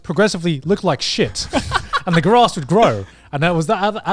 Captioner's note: laughs